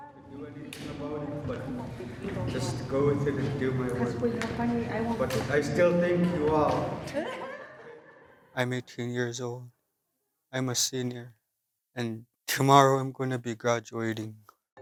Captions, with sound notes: I just go with it and do my work... but I still thank you all. (laughs) I'm 18 years old. I'm a senior. and tomorrow, I'm going to be graduating.